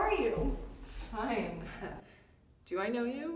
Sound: chuckle

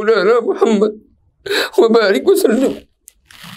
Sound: arabic

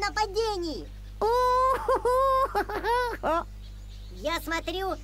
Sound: laughter

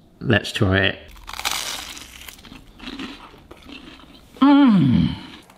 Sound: toast crunching

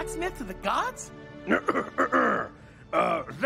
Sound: clearing throat

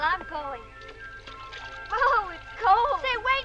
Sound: water splashing

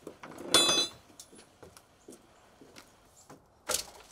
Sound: tools clink; plank creaks

